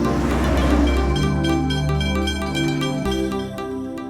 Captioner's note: bell rings